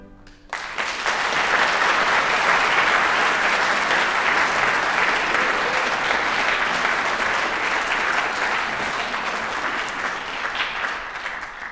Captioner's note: applause